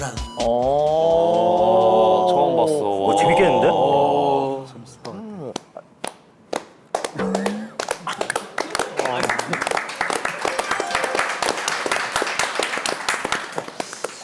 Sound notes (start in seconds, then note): 6.0 applause in awe; 8.5 applause?; 10.3 husbands in action gets a 7-minute sitting applause